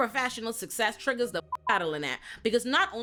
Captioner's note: beep